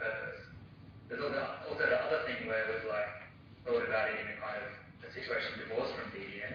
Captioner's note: audio distorts